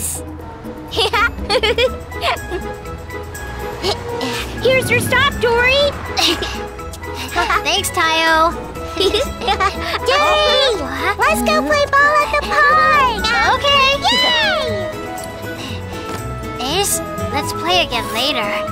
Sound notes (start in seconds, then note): 1.0 Tayo laughs